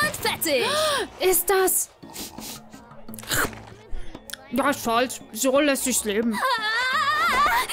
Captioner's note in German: Schnüffeln